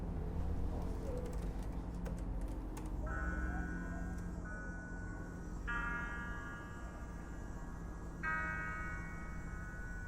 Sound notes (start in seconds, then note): 0.8 typing on laptop